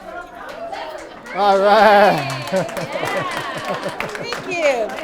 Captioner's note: participants applause